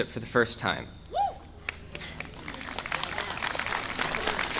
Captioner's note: audience applauding